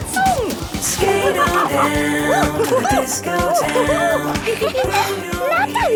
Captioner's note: laughing and exclaiming